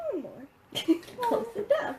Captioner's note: laughing